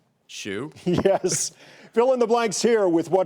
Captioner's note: giggling